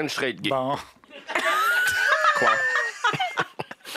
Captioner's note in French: rires